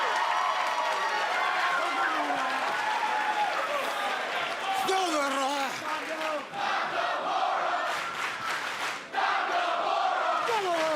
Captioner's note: cheers and applause; fans chanting